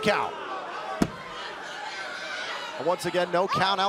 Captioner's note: crowd cheering